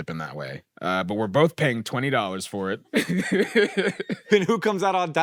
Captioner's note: laughs